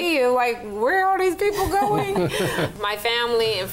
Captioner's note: laughs around the table